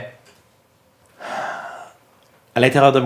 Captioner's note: sigh